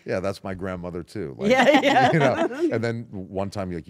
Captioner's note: laugh